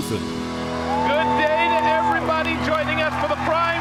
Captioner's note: audience cheering